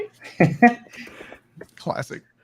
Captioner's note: laughing